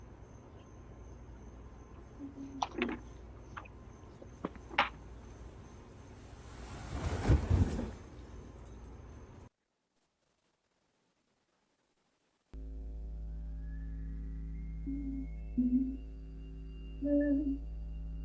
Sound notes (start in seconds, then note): 12.5 hums faintly; 12.6 low, vibrating with faint, high shrill sound under scene